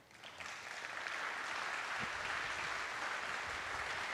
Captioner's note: attendees applauding